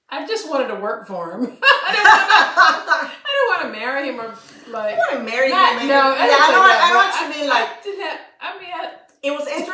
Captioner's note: laughter